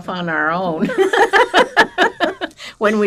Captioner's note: laughing